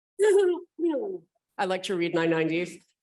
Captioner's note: laughing